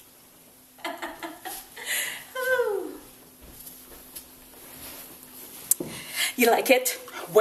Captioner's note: laughs